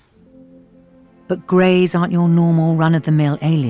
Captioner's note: voiceover